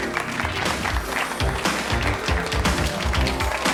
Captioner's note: clapping